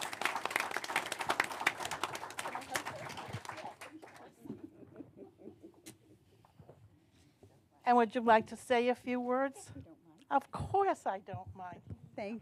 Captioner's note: applause